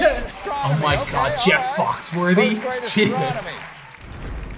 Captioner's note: laughs